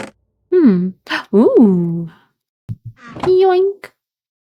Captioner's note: gasp